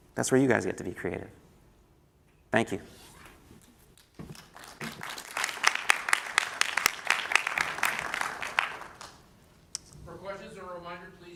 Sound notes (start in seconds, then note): 4.2 applause